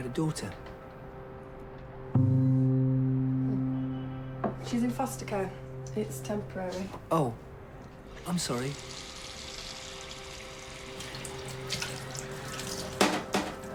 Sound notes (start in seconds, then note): 10.9 water splashing